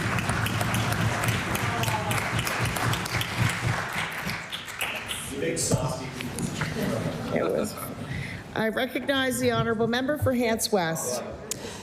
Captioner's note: applause